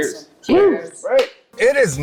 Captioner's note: group affirming